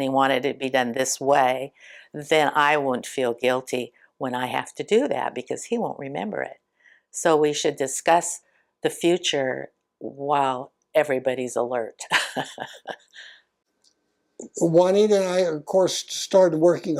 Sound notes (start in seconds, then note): 12.2 laughs